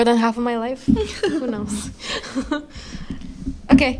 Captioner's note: laugh